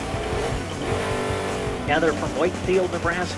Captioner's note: engine revving